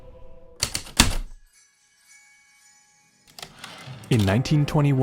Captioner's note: heavy typewriter keystrokes, light chimes, return slide